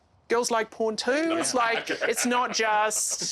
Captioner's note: laughing